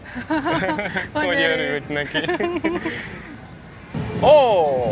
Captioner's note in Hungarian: nevetés